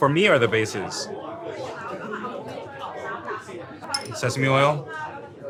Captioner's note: people chattering